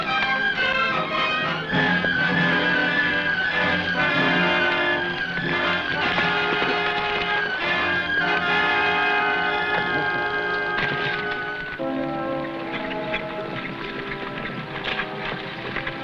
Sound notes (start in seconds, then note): 0.1 tense music; 6.1 horse hooves pattering